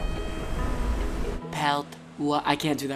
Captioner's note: in French accent